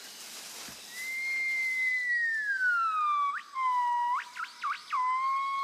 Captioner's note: high-pitched hooting